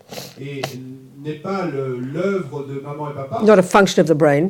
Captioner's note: audience member speaks in French